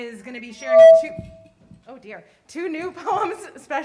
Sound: mic feedback

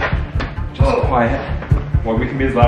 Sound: grunts

